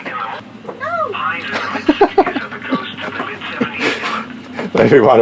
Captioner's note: laughs; laughing